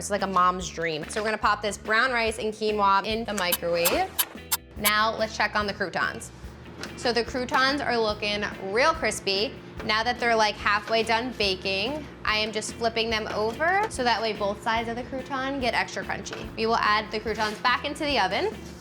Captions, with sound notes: It's like a mom's dream. So we're gonna pop this brown rice and quinoa in the microwave. (timer ticking) Now let's check on the croutons. So the croutons are looking real crispy. Now that they're like halfway done baking, I am just flipping them over. So that way both sides of the crouton get extra crunchy. We will add the croutons back into the oven.